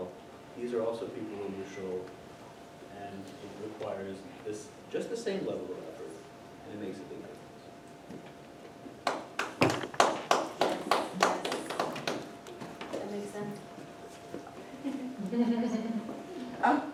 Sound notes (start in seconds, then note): 9.0 clapping